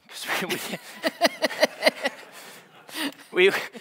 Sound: all laughing

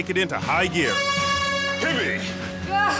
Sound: air horn blows

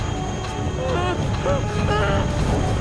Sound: groaning

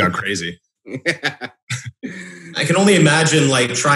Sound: laughs

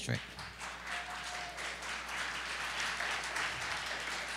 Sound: applause

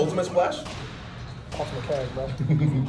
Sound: laugh

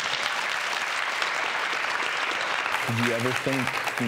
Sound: audience applause

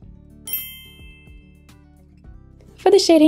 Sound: bell chimes

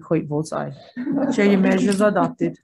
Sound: group laughs

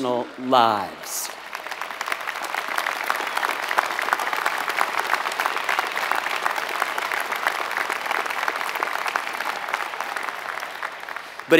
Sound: applause

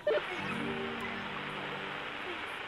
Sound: Static

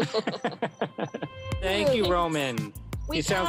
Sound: laughter

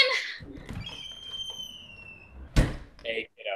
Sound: cabin door creaks

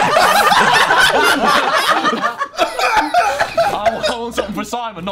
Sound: Sidemen laughing

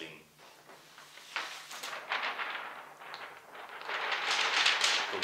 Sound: sound of rustling paper

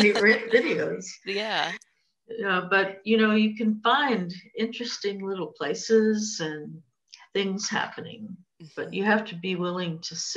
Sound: laughter

